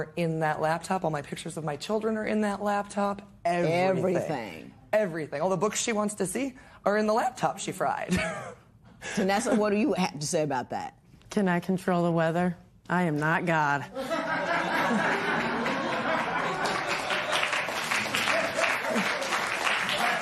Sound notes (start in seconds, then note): 7.9 chuckles; 15.5 laughter and applause